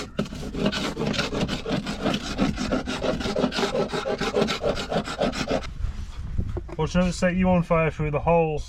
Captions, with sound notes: (wood scraping) watch I dont set you on fire through the holes!